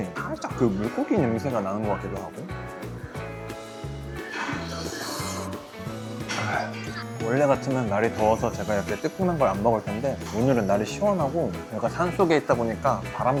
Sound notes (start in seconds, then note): 2.8 vacuum cleaner ON